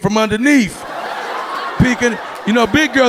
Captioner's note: audience laughing